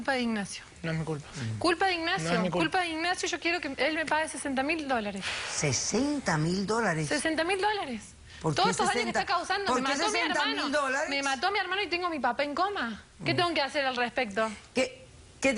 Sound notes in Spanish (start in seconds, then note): 9.2 hablan al unisono